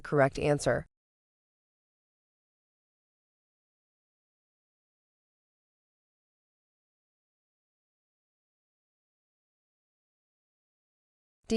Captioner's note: no audio